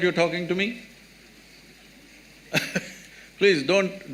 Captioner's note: laughs